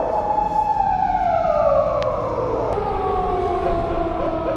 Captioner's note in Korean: 우오오옹~ 소리가 마치